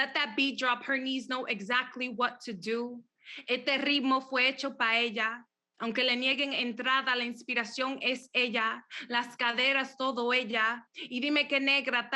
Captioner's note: speaks Spanish